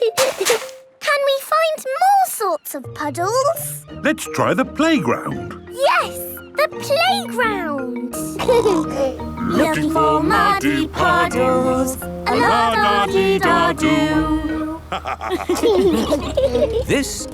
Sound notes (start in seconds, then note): 0.3 laughter; 8.4 snorting; 8.4 laughter; 14.8 laughter